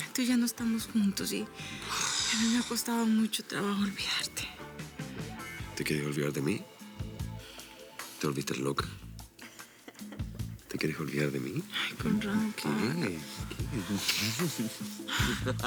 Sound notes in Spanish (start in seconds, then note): 13.4 risas